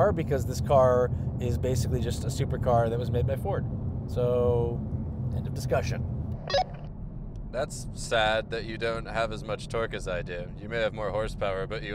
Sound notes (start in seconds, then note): 6.4 beep